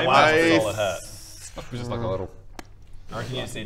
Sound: tap

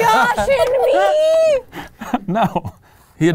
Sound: laughing

